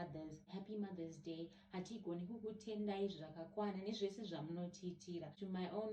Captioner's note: in Shona